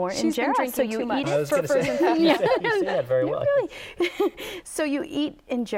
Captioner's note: laughing